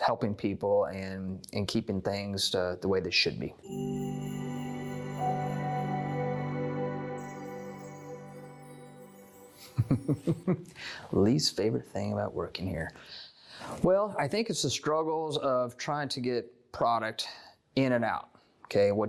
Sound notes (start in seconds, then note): 3.6 chime Sound; 9.6 laughing